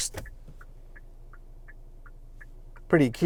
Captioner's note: vehicle indicator sound